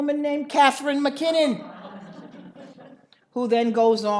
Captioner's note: audience laughs